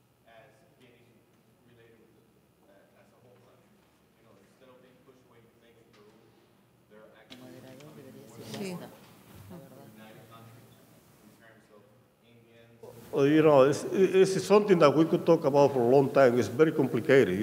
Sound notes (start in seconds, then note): 7.7 speaking in a foreign language